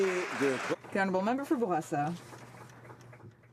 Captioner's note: some Applause